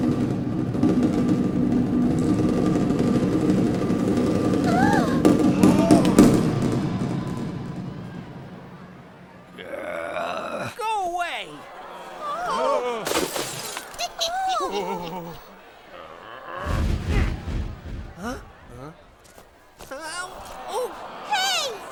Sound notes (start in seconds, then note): 0.0 people chattering; 0.2 drumroll rattling; 4.6 people gasping; 9.6 general groans; 11.4 people clamoring; 13.0 pottery crashes; 14.1 witch giggles; 16.0 soldier grunts